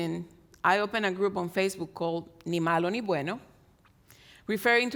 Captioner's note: speaks in Spanish